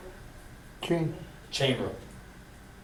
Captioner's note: voiceover